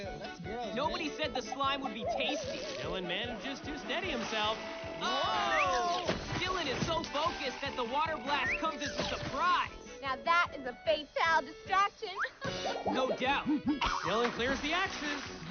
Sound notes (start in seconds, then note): 12.2 chuckles